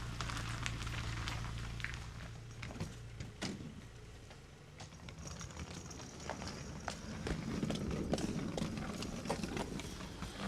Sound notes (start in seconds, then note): 3.4 door thuds; 4.7 luggage wheels rattle